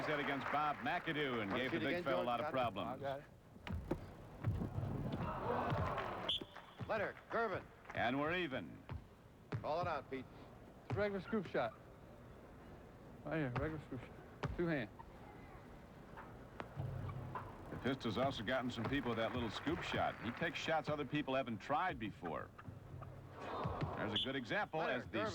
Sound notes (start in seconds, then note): 0.0 applause; 5.2 audience groans